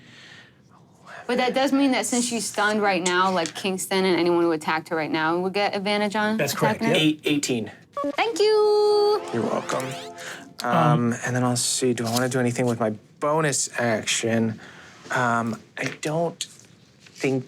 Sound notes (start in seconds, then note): 8.0 computer beeps; 8.7 engine powering up